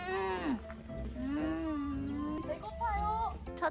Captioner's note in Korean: 으으웅응; 으으으우응